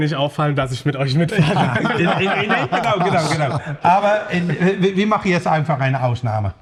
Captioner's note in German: gelächter